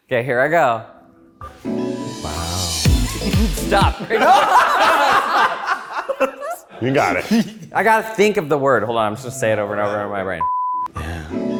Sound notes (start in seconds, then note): 1.4 upbeat music; 3.6 laughs; 3.6 all laughing; 10.8 upbeat music